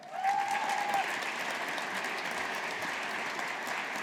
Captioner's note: audience applauding